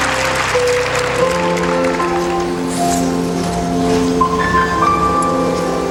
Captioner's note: applause; crowd cheering